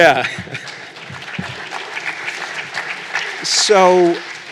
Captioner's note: applause